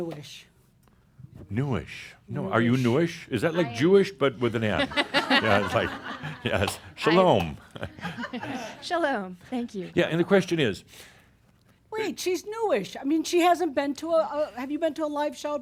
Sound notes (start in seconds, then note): 5.3 some chuckles; 7.2 chuckles